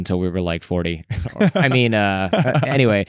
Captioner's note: laughter